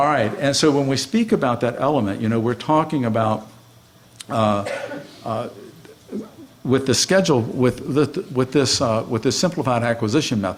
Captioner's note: laughing